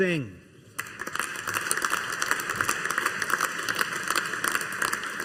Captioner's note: audience applauding